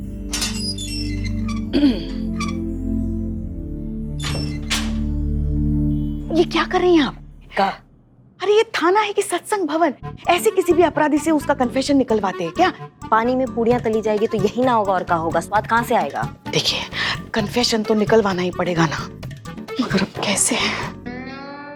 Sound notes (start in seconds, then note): 0.1 gate opens; 1.7 clearing throat